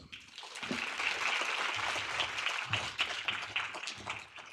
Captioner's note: audience applauding